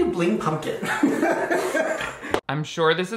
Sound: Shane and crew laugh

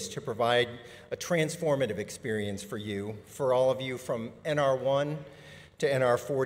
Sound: none

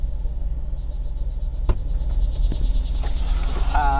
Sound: door opens

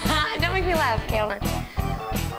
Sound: laugh

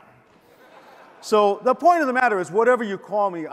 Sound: audience laughs

